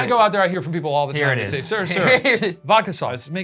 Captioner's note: laughs